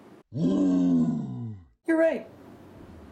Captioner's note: Hulk roars